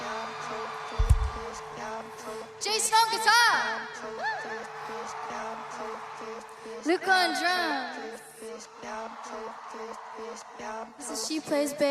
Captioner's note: crowd Cheering